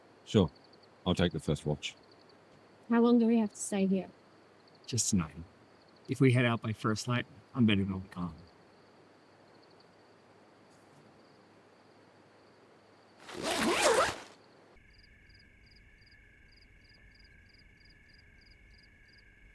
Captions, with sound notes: -Sure, I'll take the first watch. How long do we have to stay here? Just tonight. If we head out by first light, I'm betting they'll be gone. (Crickets chirping)